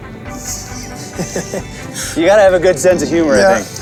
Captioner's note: laughter